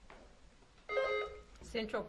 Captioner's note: buzzer beeps